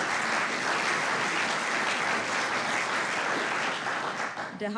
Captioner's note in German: Applaus